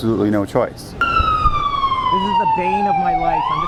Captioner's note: siren wailing